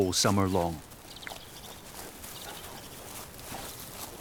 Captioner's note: birds twittering